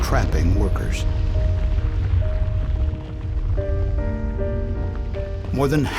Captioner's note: sound of explosion